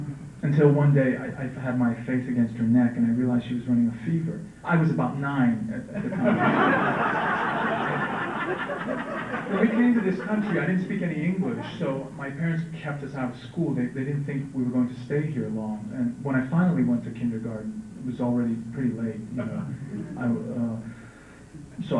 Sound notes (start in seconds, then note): 5.9 laughter